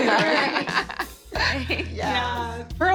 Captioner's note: laughter